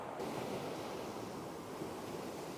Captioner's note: waves splashing